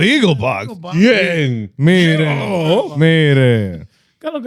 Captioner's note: speaking In Foreign Language